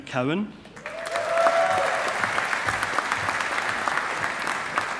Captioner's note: audience applauding